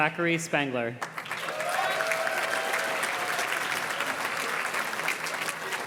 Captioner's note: audience cheers and claps